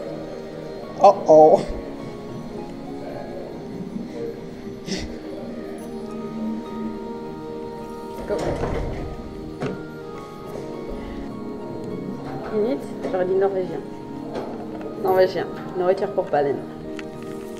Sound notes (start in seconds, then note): 11.3 in french; 14.3 still in french